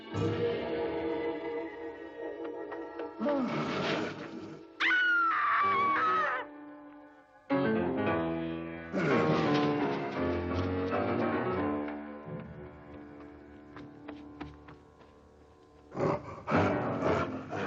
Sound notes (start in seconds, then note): 3.2 growling; 4.8 Mary screams